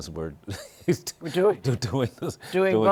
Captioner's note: chuckles